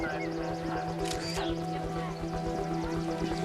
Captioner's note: garbled radio transmission; camera shutter clicks